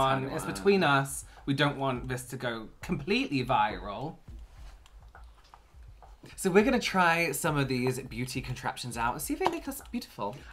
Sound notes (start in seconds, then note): 4.6 smug Silence